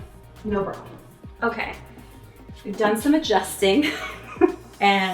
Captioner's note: chuckles